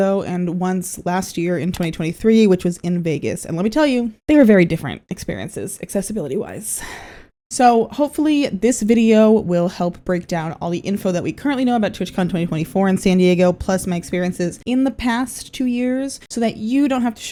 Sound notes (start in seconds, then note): 6.8 sigh